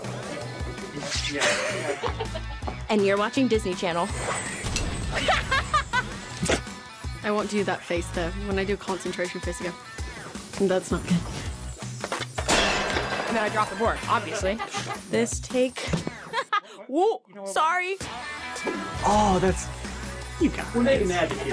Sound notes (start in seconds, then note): 1.3 laughter; 14.0 laughing